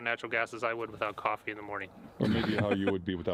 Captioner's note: Gülme